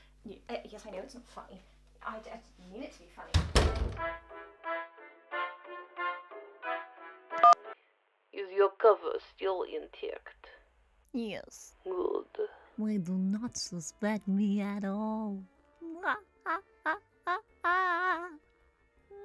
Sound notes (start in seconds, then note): 3.3 door closes as the boss leaves; 3.9 A Russian Ring Tone Plays; 8.9 Russian accent; 13.4 Russian accent